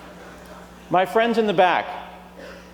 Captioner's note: laughter